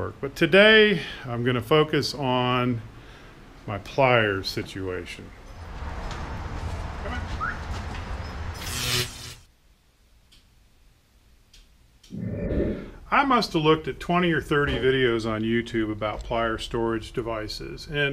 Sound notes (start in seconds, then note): 7.3 whistles; 8.5 electrical zapping